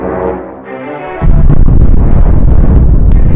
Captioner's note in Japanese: 水爆実験の音